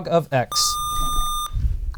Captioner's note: buzzer